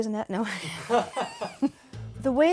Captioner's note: both laugh